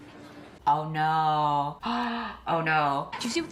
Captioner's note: gasps